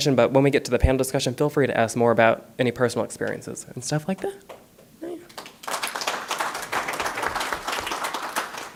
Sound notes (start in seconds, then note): 5.2 applause